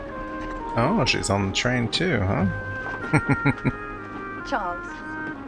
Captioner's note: chuckling